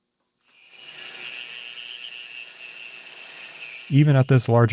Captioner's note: machine whirring